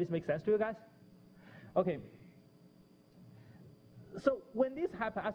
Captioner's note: pause